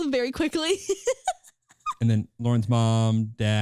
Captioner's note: laughing